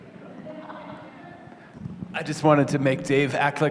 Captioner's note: laughter